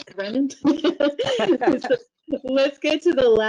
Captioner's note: laughter